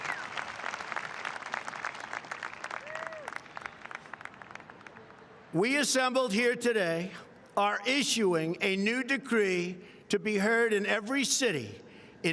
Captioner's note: applause